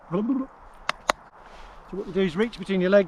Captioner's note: clapping